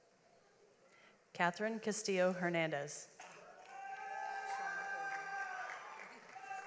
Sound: audience applauds

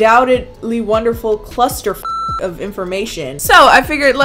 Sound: beep

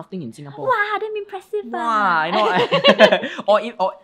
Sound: both laugh

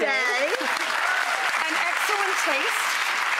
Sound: audience applauds and cheers

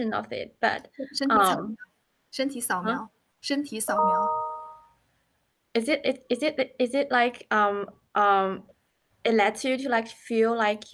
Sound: speaking Chinese

